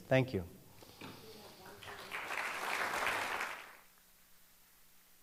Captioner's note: applause